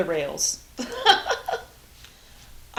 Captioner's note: laughs